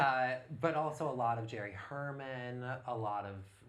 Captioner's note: laughs